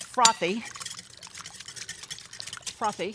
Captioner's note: whisking